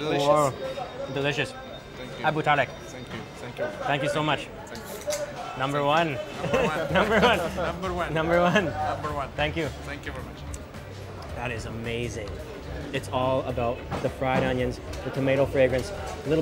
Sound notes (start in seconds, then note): 2.3 speaking in foreign language; 6.2 laughs